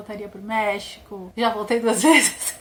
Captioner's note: laughs